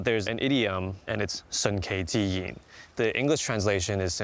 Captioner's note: speaking Chinese